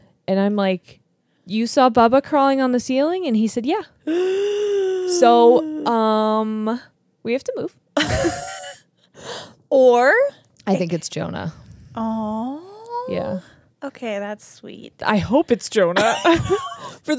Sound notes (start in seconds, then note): 4.0 gasps loudly; 8.0 laughs; 16.0 chuckle